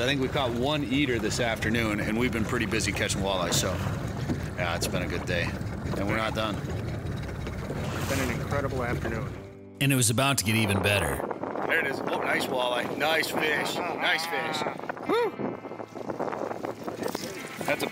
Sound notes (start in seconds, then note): 10.1 wind rustling; 15.1 laughing